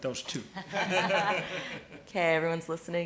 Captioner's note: laughing